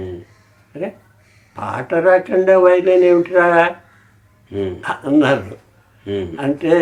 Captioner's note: laughing